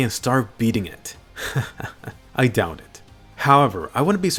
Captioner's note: laughs